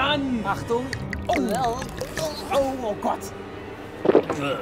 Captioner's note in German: Unsichere Laute